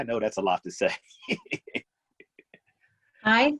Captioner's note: laughter